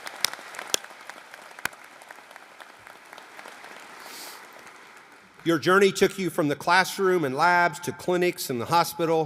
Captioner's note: applause